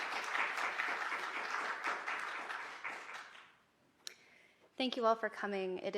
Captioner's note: applause